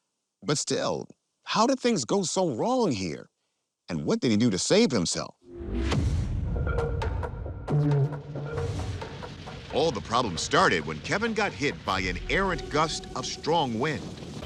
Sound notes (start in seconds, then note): 7.5 suspenseful music; 8.4 graphic whooshes